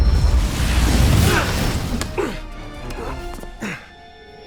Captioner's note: wincing